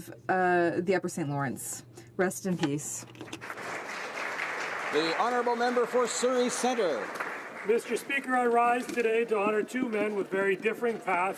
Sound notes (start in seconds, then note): 6.6 applause